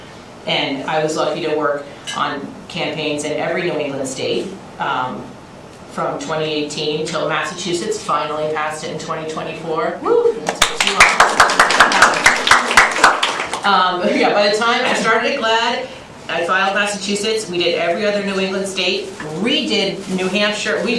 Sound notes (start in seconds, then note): 10.4 applause